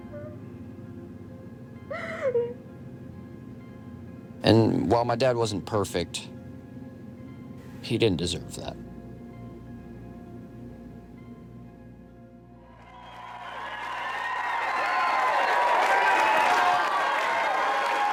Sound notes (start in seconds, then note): 12.8 audience shouting and cheering